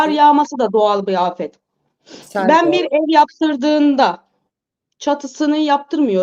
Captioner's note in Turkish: homurdanır